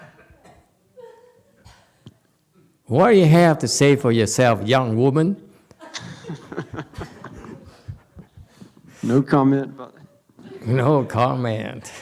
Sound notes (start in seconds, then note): 9.3 laughs